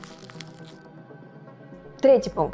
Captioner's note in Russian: звук мятой бумаги